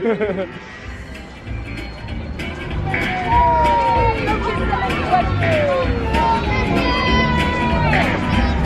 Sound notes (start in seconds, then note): 0.0 both laugh; 1.8 people cheering; 1.9 upbeat music